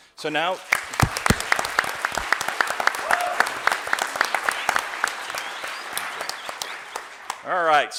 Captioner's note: applause